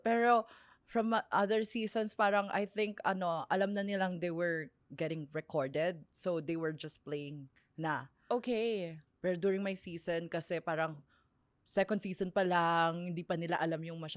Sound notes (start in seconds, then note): none